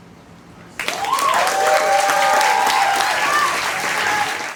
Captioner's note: audience applauds and cheers